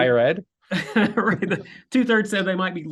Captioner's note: chuckling